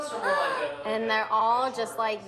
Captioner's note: gasps